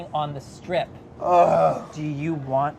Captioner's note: groans